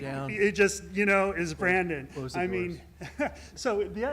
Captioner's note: laughter